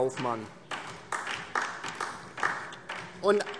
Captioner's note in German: Beifall DIE LINKE